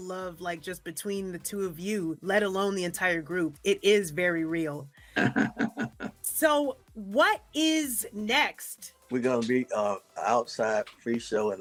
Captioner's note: laughs